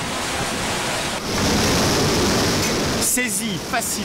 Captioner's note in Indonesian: suara gelombang tsunami